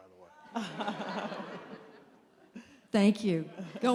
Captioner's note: laughter